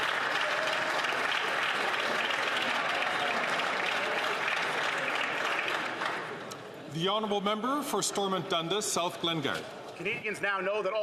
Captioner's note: some Applause